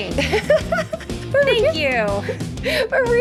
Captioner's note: laugh